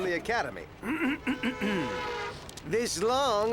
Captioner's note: clears throat